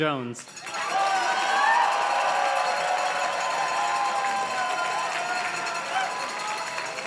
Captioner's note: audience cheers and claps; chime plays